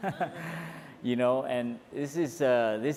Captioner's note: laughs